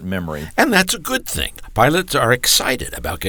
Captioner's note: voiceover